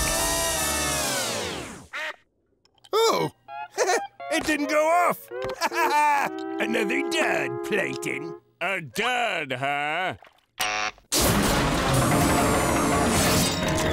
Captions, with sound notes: Oh. [chuckles] It didn't go off. [laughing] Another dud, Plankton. A dud, huh?